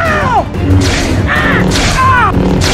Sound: hit

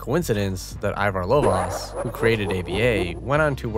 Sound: evil Kefka laugh

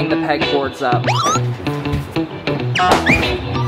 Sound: cartoonish whistling; lively music

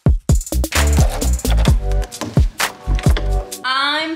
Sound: door creaking

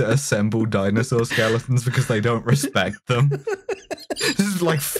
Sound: laughter

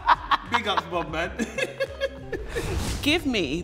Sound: both laughing

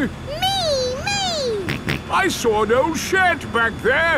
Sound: snorts

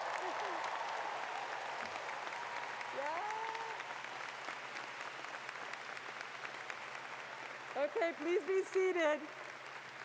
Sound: cheers and Applause

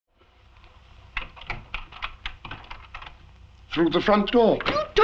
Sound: door handle clicking

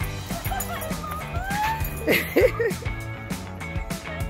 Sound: onlooker laughing

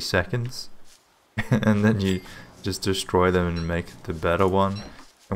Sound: chuckles

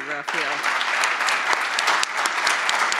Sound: applause

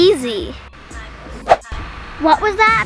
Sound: air whooshes

